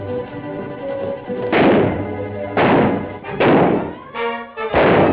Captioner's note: gunfire